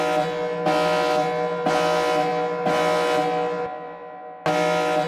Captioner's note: alarm resounding